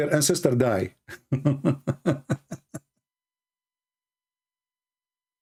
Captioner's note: ketawa